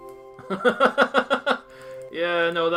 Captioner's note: laughs